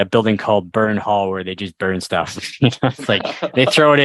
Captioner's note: laughter